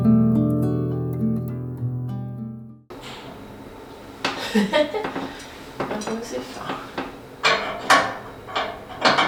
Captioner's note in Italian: risate